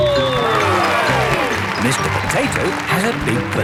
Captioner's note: cheering